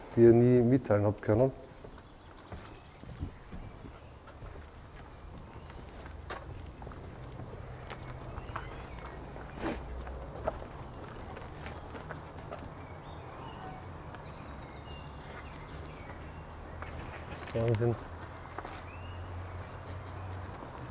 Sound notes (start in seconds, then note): 2.6 wind in the background